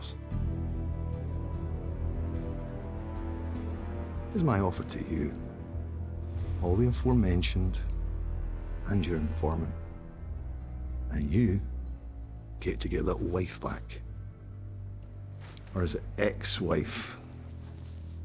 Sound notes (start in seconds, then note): 1.3 tense music; 4.4 scottish accent